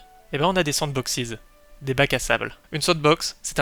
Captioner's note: in french